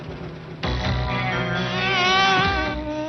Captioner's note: buzzing